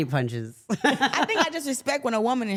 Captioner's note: laughs